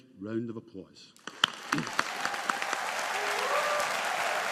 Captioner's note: audience applauding